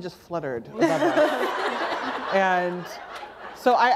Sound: laughter

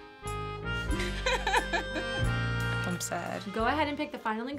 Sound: laughs

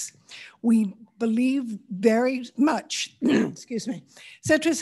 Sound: grunts

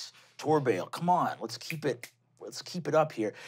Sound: snaps fingers

